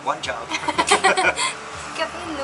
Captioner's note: laughing